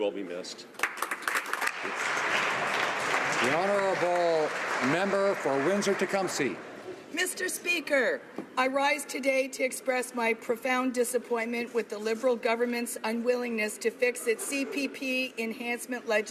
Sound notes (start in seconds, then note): 5.2 applause